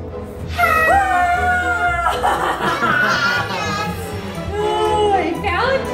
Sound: shouts and laughs

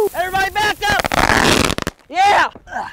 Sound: fire cracker exploding

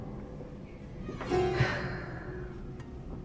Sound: exhales

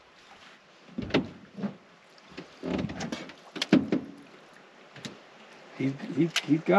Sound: creaking

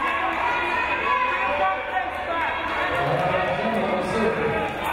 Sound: crowd cheering

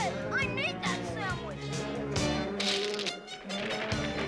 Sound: roaring

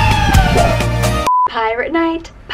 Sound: signal tone

